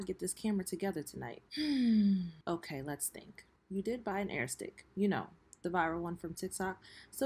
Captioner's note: sighs